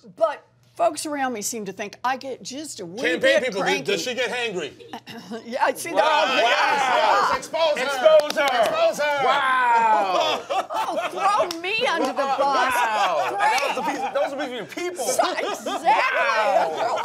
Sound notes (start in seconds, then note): 9.8 laughter